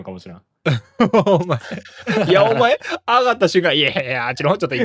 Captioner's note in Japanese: 笑い